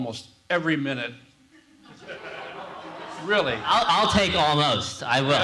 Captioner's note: laugh